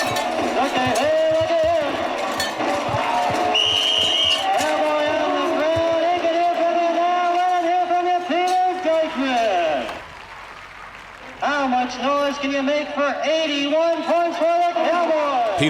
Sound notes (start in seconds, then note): 0.3 crowd cheers over loud whistle; 5.4 loudspeaker